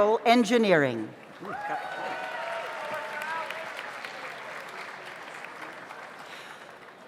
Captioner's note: audience applauds; audience cheers